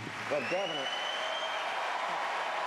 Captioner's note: applause